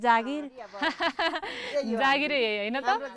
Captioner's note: laughs